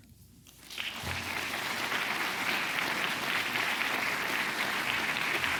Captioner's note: audience applause